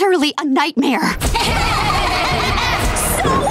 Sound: laughing

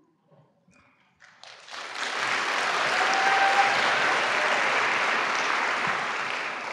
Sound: applause

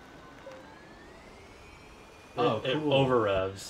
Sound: engine over revving

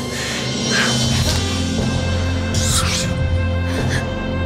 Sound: Kevin exhaling; Kevin inhaling; inhaling; exhaling; air whooshing; Susan gasping

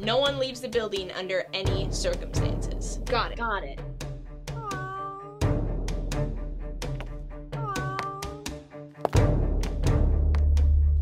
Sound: meow sounds offscreen

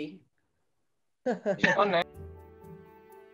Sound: laughter

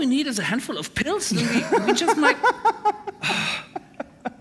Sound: laughter

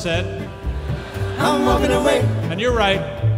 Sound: audience laughs

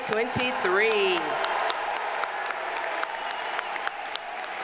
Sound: audience applauding

